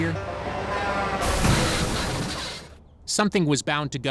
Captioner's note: crashing